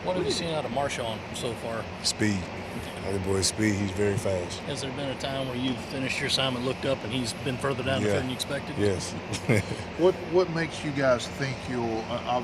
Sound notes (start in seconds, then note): 8.9 giggles